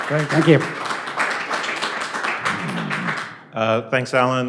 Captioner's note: applause